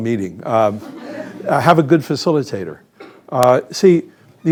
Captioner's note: laughter